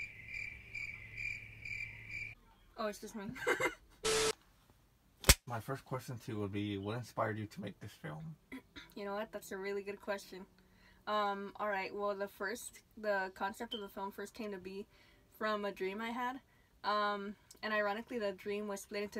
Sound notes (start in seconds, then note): 0.0 crickets chirping; 3.3 laughs; 4.0 TV static; 5.2 clapper slap